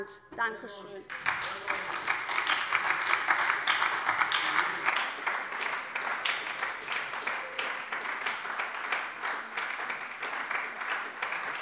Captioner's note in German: Anhaltender lebhafter Beifall bei der SPD